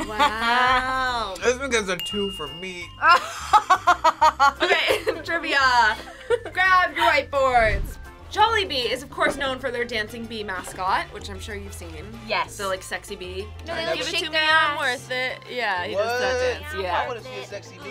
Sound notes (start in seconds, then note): 3.1 laughing